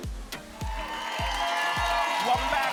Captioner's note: applause and cheering